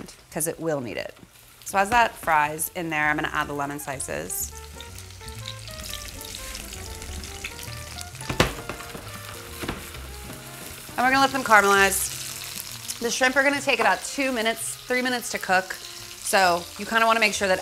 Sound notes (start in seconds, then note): 4.6 sizzling; 12.2 sizzling